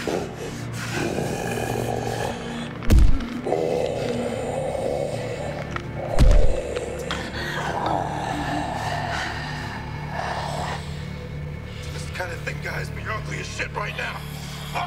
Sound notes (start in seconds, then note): 8.8 snarling